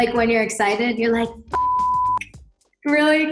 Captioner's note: beep